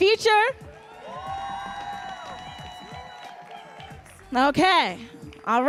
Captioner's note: audience cheering and applauding